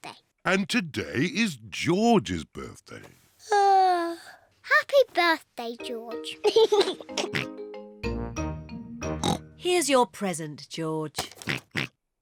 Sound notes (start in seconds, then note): 3.2 yawns; 6.4 laughs and oinks; 9.2 oinks; 11.4 oinks